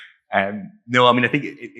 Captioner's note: laughing